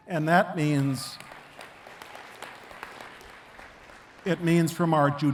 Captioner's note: attendees clapping